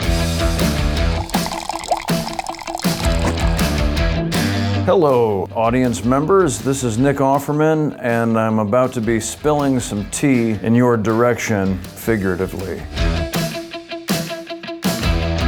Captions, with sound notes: (upbeat music) (tea pouring) - Hello audience members. This is Nick Offerman and I'm about to be spilling some tea in your direction, figuratively.